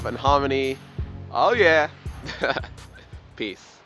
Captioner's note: laughs